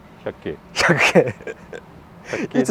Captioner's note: laughs